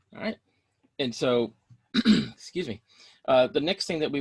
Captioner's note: clears throat